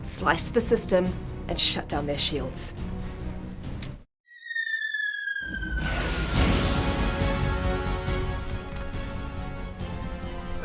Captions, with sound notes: Slice the system, and shut down their shields. [AIR WHISTLING] [EXPLOSION] [ACTION MUSIC]